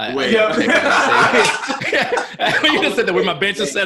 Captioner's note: laughter